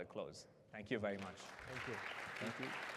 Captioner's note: applause